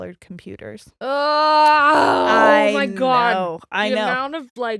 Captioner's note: groans